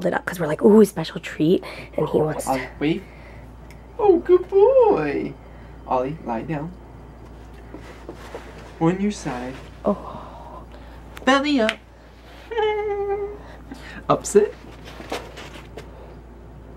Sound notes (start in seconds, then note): 12.4 laughs